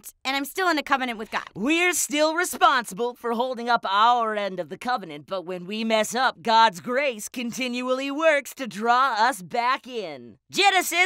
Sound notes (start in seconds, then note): none